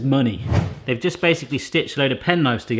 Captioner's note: whooshing